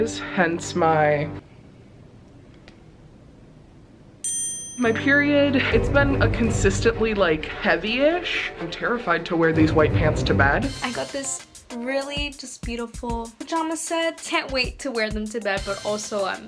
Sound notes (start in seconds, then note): 4.2 smile dings